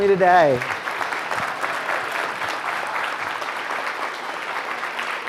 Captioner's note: students applauding